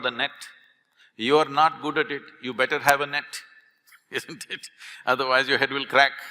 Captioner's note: laughs